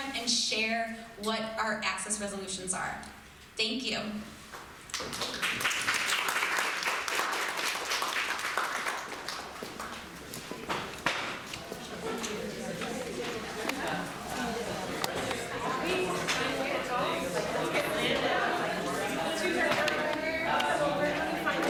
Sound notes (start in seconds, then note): 4.9 crowd applauds; 11.3 crowd talking loudly